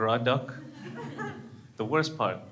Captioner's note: crowd laughs